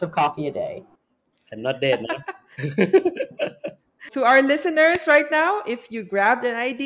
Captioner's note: laughs